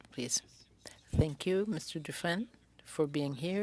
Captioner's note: speaking French